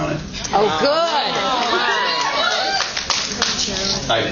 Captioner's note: cheers